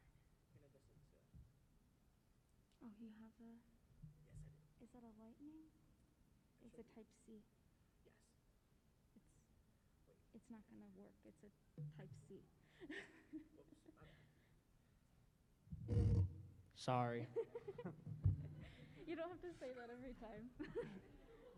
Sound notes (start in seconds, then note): 12.7 laughs; 15.7 mic scraping; 17.2 laughter